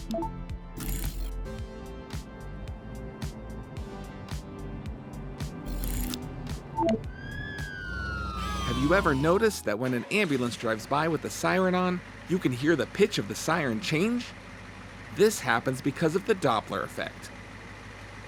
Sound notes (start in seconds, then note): 0.8 text box beeping; 6.9 ambulance wailing